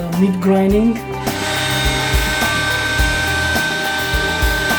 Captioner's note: grinding